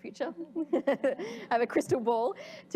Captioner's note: laughter